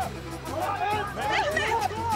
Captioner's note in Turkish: Bağrışma sesleri